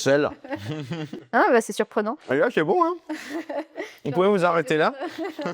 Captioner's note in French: rires